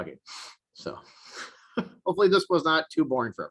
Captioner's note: chuckles